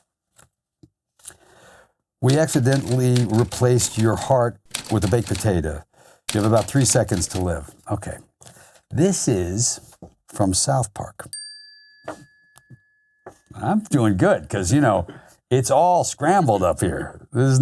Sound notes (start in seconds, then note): 11.3 bell chiming